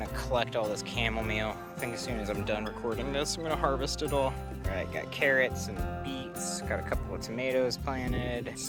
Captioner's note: birds chirping